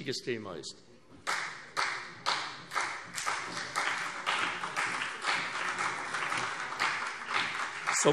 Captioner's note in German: Beifall CDU und BÜNDNIS 90/DIE GRÜNEN